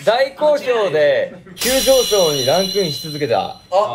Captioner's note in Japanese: 効果音 シャキーン✨